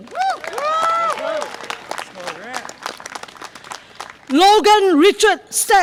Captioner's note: audience applause and cheer